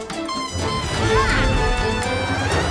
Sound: Tola screams

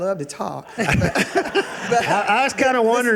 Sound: audience laughing

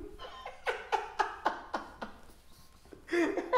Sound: laughing

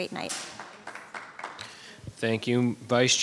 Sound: audience applauding

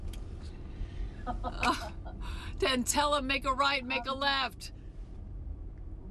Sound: laughter

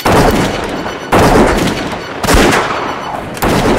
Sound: guns fire

